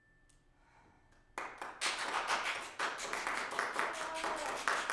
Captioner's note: applause